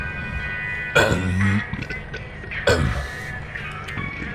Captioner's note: burps